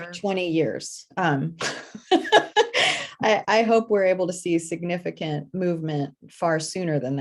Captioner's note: laughs